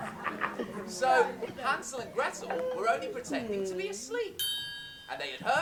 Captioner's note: laughter; ping